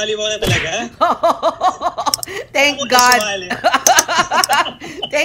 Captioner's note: laughter